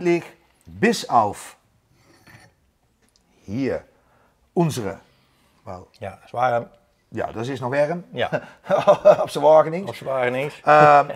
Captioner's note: dutch Dialect